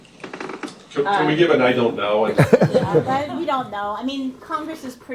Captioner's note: laughter